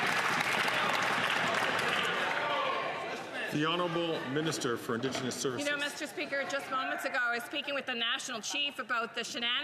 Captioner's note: some Applause